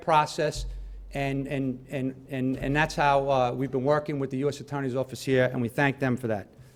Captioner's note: stutters